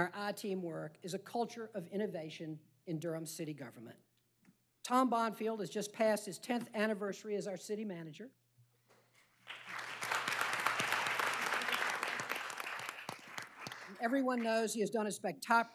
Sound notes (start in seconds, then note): 12.1 applause